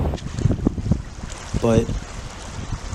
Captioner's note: waves crashing; waves lapping